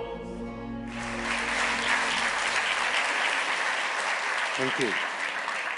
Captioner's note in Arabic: تصفيق